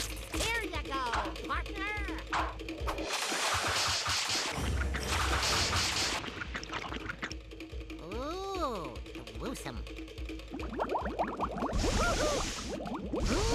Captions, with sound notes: HERE YOU GO, PARTNER. OOH, GRUESOME. [water bubbling] [groaning]